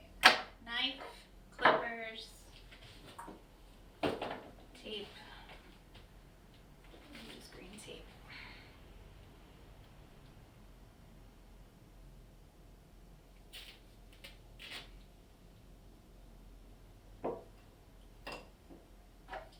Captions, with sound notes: (Knock) All right, knife, (knock) clippers, (Knock) tape. (Quiet voice) Use green tape. (Knock)